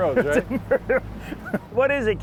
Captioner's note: laughs